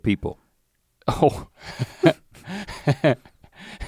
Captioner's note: chuckles